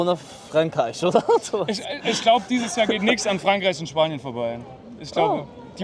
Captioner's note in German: gelächter